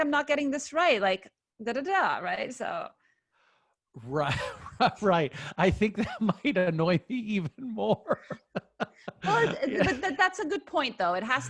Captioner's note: laughing